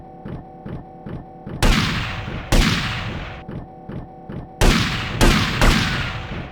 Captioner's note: gunshots